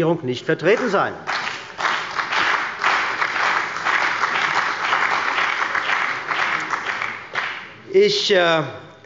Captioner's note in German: Beifall bei der CDU und dem BÜNDNIS 90/DIE GRÜNEN